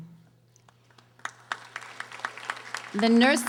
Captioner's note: audience applauding